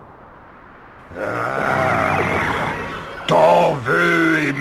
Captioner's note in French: Grognements du dragon